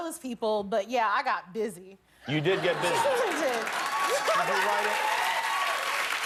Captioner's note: laughter; cheers and applause